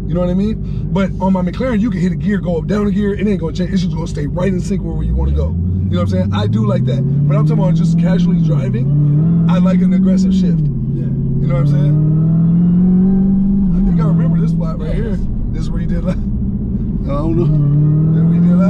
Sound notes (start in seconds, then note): 12.9 car engine revving